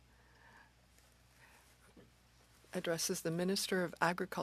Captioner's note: speaking French